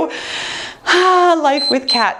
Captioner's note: sighing; timer beeps